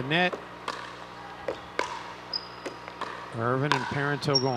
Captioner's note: ball bouncing